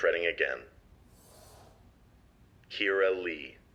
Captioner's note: screen whooshes